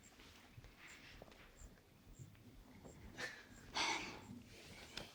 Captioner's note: crickets chirping continues